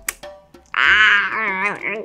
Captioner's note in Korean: 와아아악